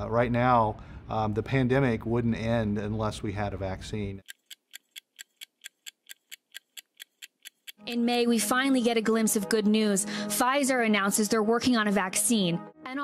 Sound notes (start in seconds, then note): 4.2 clock ticking